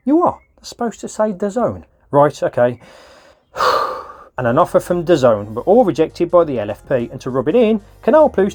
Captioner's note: huff